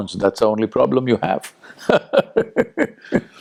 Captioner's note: laughs